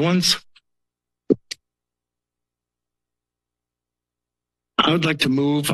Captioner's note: silence